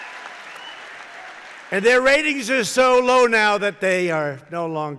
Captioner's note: applause